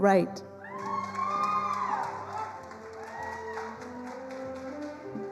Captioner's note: attendees applauding